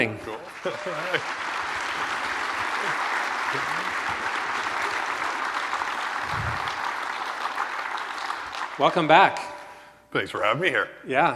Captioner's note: applause